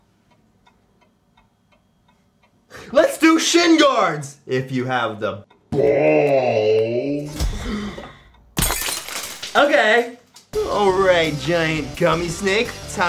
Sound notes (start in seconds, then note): 0.0 clock ticks in background; 7.4 sudden gasp; 8.5 glass smashes